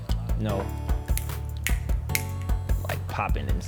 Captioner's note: snapping fingers